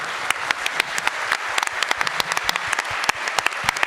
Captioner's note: audience claps